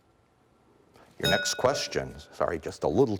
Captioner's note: bell rings